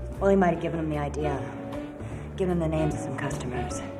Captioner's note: pat